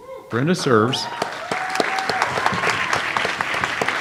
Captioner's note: audience applauds